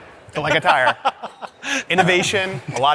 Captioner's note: laughs